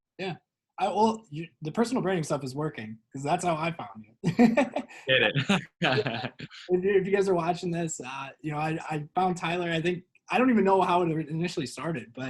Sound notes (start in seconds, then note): 4.2 both laugh